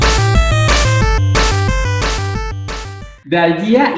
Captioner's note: spanish Words